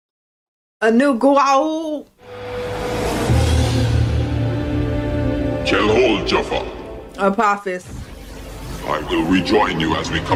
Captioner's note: Speaking Goa'uld